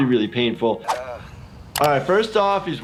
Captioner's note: Steve-O grunts